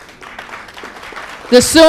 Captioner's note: applause